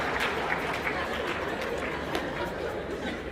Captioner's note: laughter